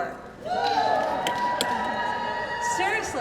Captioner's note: crowd cheering